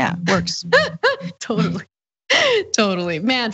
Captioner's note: laugh